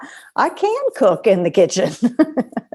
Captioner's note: laughter